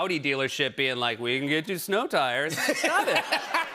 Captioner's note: laughter